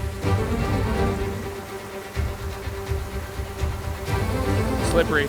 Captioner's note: waterfall hissing